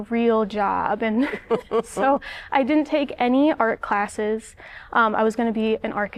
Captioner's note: laughter